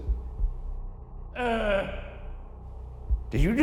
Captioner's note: moans